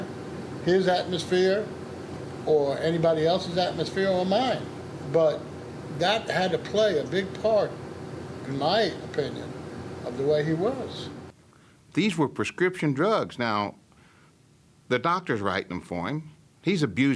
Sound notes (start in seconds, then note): none